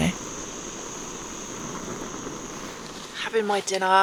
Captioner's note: stove roaring